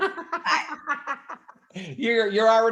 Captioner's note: laughing